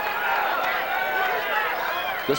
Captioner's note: audience cheering